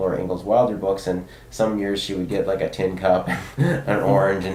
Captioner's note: chuckles